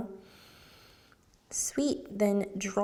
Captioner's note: inhales